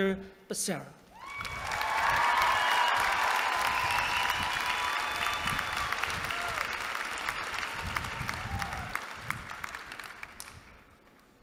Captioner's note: applause